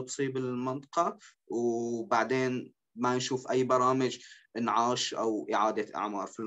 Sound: speaking in Arabic

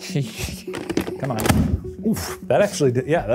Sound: chuckling; bucket booms

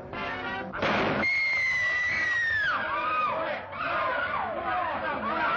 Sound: gunshot; screaming

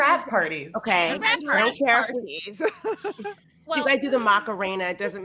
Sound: group chattering

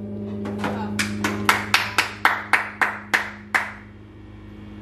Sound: awkward clapping

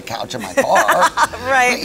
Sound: laughs

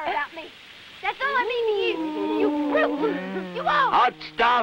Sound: ooing

